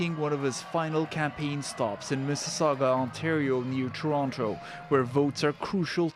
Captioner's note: cheers and Applause